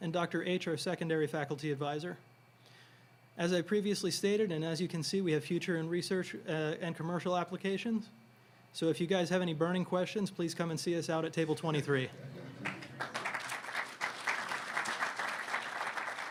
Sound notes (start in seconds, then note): 12.4 audience clapping